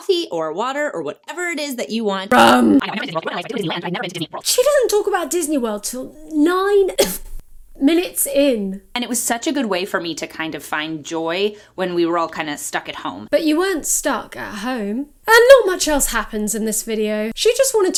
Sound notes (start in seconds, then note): 2.3 grunts; 6.9 cough